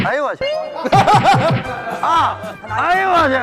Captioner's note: hahahaha